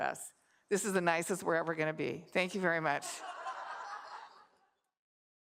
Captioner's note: laughter